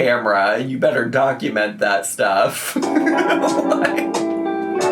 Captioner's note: laughs